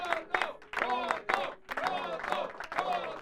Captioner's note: People chanting "Cotto"